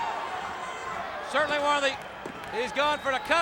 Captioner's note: hands thudding